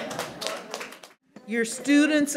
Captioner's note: audience applauds